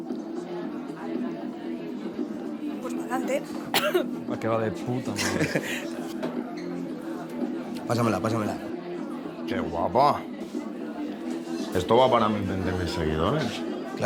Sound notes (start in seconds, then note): 3.6 coughs